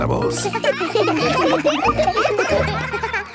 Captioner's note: children laughing